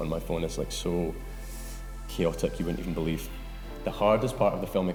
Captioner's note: sharp inhale